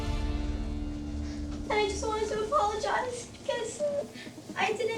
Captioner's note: tearfully